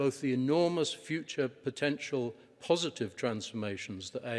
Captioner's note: none